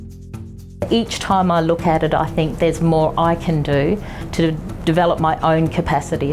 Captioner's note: voiceover